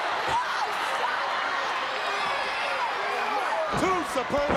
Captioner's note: crowd yelling